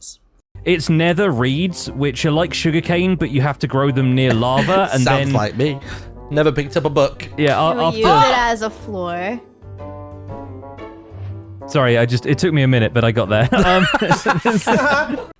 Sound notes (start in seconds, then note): 4.2 laughs; 13.4 laughter